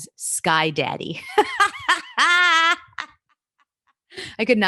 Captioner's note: laughs